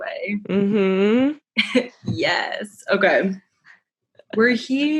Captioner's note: giggle